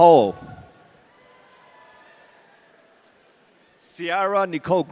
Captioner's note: audience cheering